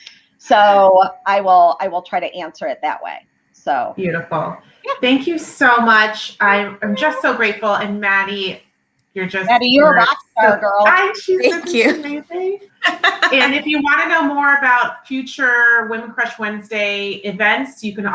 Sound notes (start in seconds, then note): 12.8 laughter